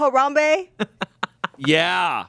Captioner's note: laughs